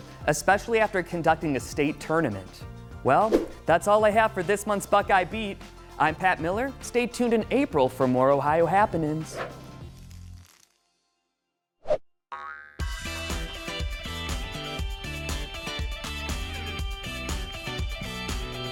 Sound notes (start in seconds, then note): 12.3 boing; 12.8 upbeat music